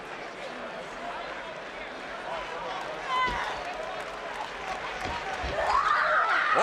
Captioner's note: crowd cheering